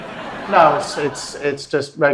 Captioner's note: audience laughs